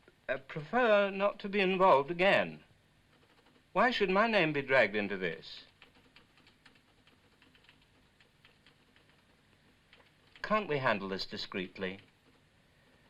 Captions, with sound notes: prefer not to be involved again. Why should my name be dragged into this? (typewriter chattering) Can't we handle this discreetly?